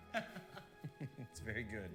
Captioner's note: snickering